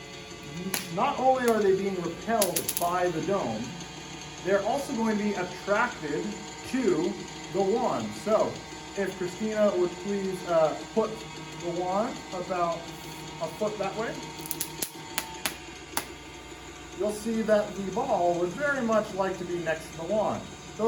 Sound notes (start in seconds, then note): 15.7 zap